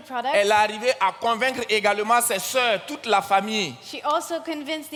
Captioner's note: continues in French